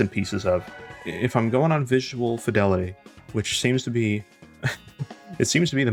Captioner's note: chuckle